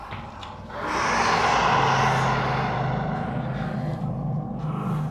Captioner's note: creature roars, loudly